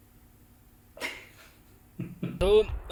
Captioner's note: laughing at his own joke